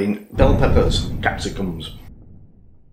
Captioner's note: blam again